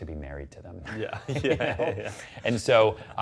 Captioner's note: laughing